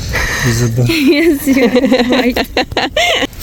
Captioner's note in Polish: śmiech